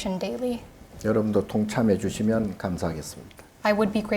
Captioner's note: speaking Korean